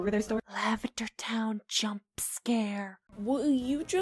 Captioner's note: whispered